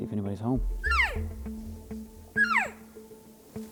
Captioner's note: cow elk calling